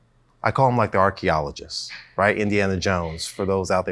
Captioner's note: chuckles